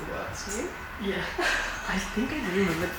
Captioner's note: laughs